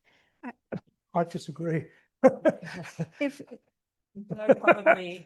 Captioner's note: chuckles